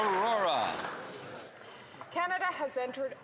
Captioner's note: some Applause